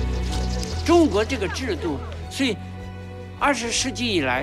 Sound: instrumental music; speaking Chinese

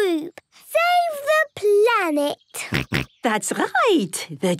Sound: snorts

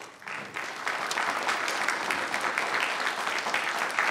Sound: audience applauding

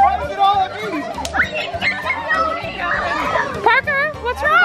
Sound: screeching and splashing

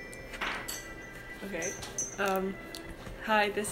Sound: taps the wind chime

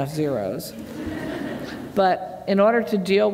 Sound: laughter

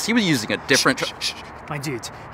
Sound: Blair shushes him

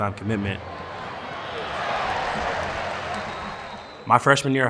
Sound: crowd cheering

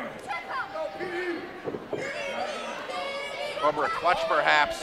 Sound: crowd chanting "Petey"

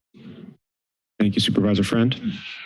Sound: silence

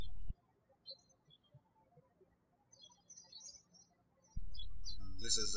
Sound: birds chirping

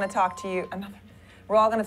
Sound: chime

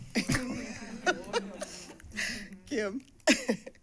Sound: laughter

